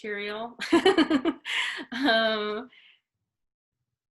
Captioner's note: laughs